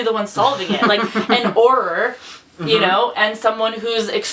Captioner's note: laughs